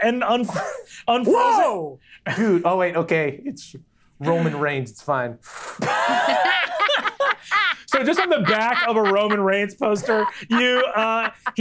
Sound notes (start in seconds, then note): 5.8 players laughing